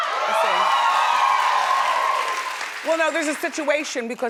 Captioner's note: audience cheering